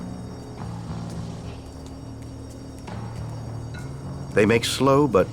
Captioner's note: alarm ringing distantly